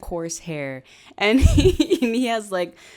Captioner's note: laughs